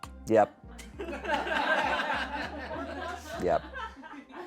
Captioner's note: audience laughing